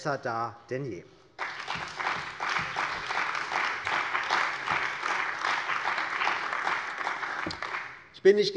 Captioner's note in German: Beifall bei der CDU und dem BÜNDNIS 90/DIE GRÜNEN